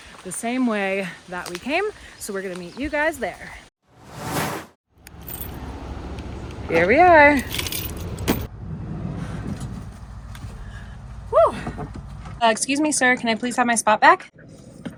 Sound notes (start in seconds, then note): 4.0 whoosh